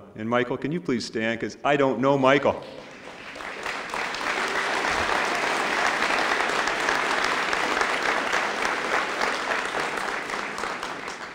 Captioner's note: applause